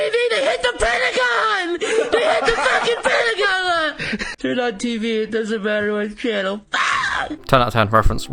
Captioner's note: screams